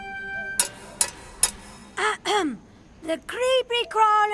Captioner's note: clanking